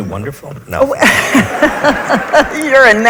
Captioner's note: audience laughs